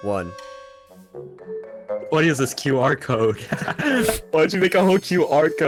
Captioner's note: laughs